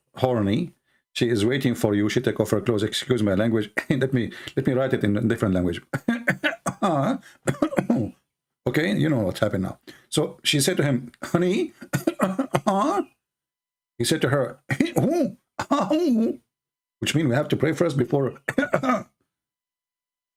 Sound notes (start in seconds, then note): 5.7 Ketawa